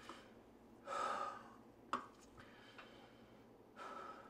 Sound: Josiah sighs

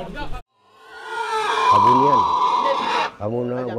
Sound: pig squeals

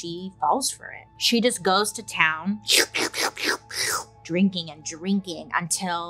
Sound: slurping

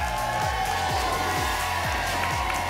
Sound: whoosh; applause and cheering cont

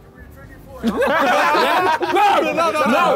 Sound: laughing

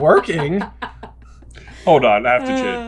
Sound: laughing

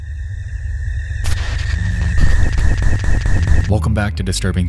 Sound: static hisses

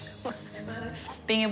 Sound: girls laughing

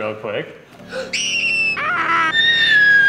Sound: lightly screams; high pitched screams

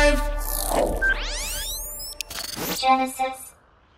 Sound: electronic chiming; loud whooshing

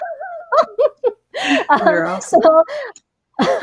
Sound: both laugh

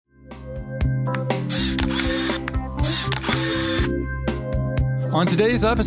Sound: upbeat music; camera clicking

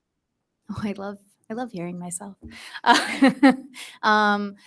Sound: laughs

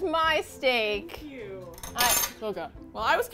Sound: metal clatters

